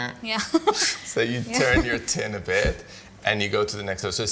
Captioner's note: laughs